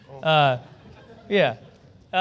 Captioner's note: laughter